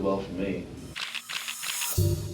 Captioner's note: camera shutters click